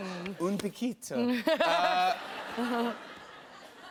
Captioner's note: laughter